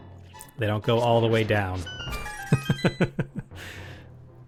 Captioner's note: laughing